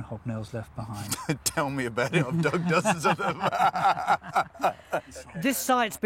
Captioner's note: laughs